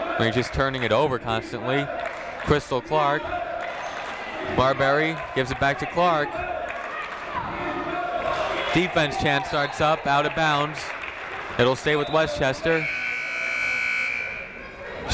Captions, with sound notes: They're just turning it over constantly. Crystal Clarke. Marbury gives it back to Clarke. (people chanting in the crowd) Defense chant starts up. (whistle tweeting) Out of bounds. It'll stay with Westchester. (buzzer ringing)